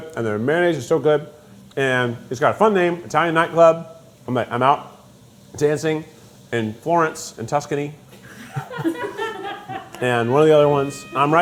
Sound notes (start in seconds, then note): 8.4 crew laughing